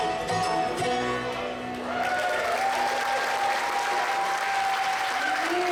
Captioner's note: audience appluase